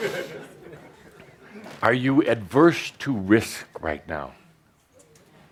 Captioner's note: laughter